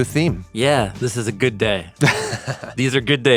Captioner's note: chuckles